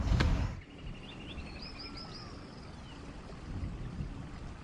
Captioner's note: birds chirping